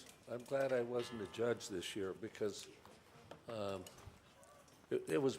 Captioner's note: none